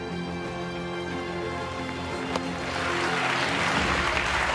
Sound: attendees cheering and applauding

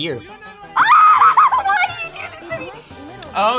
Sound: screams

